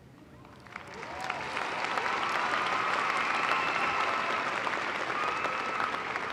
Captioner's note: applause